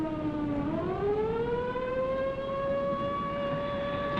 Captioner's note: alarms blaring